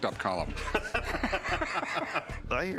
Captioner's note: laughter